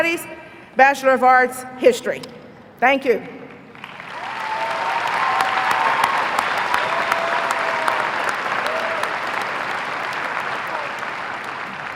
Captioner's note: applause